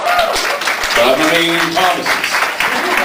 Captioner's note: applause